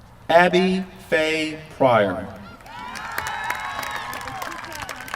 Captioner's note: applause